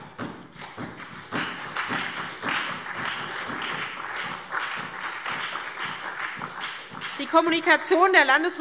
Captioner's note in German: Beifall SPD und DIE LINKE